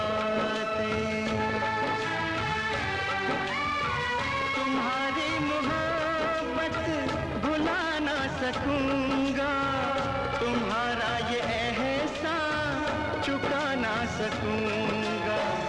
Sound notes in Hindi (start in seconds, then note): none